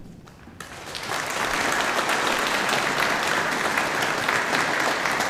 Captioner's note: audience applauding